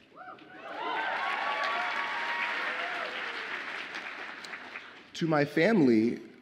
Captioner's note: audience applauds and cheers